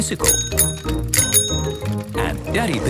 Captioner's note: bicycle bell dinging